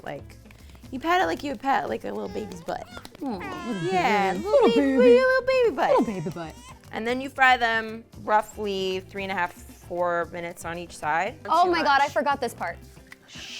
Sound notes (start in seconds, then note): 2.1 baby's cry